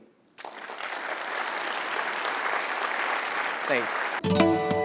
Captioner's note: applause